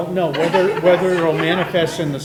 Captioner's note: everyone laughing